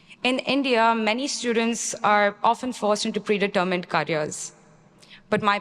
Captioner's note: none